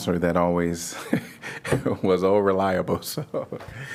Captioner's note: laughter